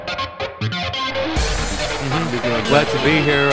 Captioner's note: crowd cheering